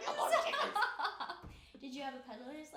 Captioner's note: laughing